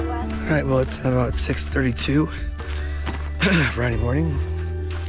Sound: clears throat

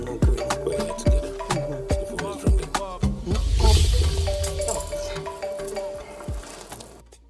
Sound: phone ringing

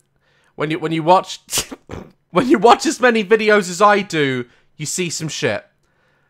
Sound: sniggers

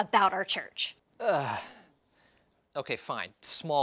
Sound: groans

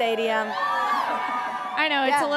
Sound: audience cheering

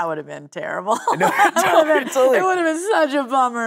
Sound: both laughing

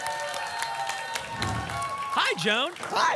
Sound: applause and cheering; whoosh

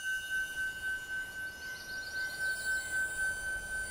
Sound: eerie ringing

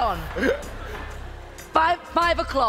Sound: laughs

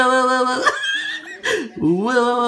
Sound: laugh

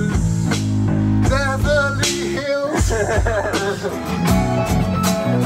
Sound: various laughter

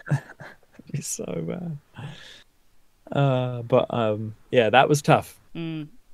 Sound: laughs

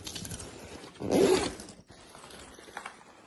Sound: zipping up the backpack

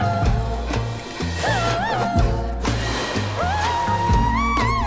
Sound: splashing

